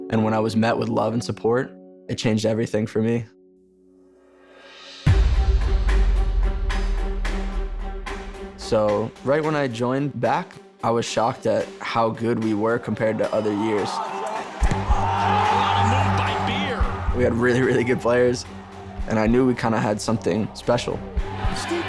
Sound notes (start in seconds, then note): 4.2 tense music; 15.2 crowd cheering